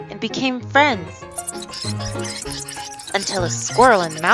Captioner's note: squeaking